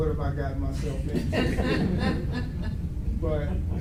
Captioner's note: audience laughs